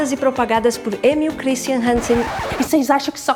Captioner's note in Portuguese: efeito vinil riscando